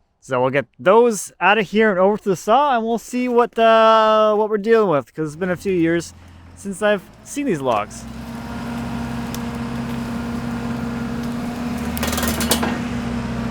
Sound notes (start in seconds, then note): 8.3 engine revving